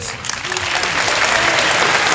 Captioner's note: applause